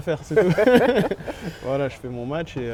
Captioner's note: laughs